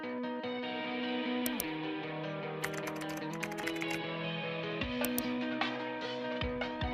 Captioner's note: upbeat rock music; keyboard keys clicking; mouse clicking; upbeat rock music